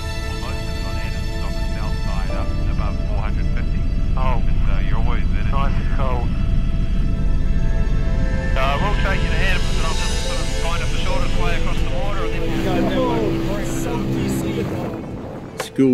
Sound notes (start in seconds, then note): 1.9 radio talking